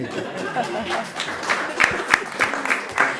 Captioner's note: laughter